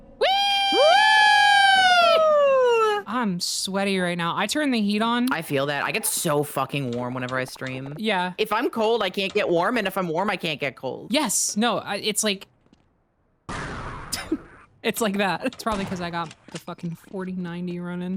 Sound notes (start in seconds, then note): 13.4 explosion; 14.1 chuckles